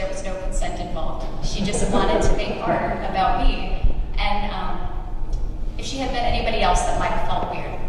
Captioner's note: laughter